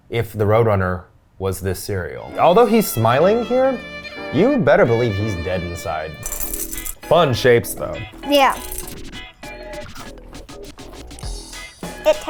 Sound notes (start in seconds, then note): 6.2 cereal trickling; 7.9 upbeat electronic music